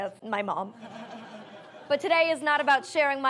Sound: audience laughs

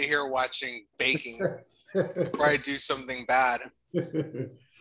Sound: laughter

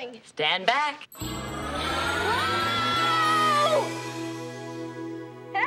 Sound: <i> screaming</i>

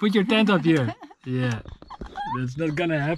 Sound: laughing

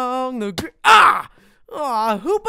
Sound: yells

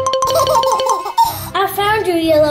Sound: laughter

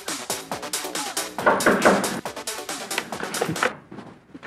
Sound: knocking

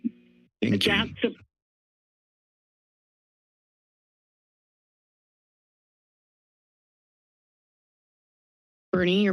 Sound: silence

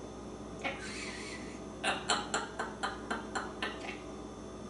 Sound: laughing

